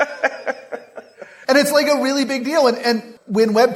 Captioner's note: laugh